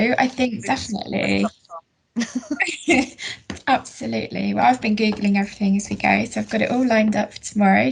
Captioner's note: laughter